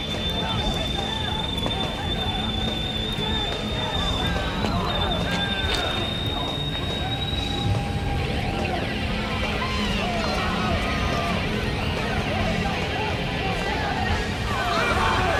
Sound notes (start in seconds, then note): 14.4 howling Continues